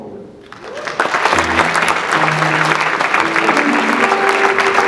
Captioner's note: audience clapping